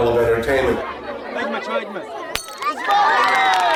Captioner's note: non-english speech